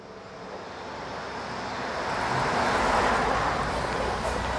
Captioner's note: engines whir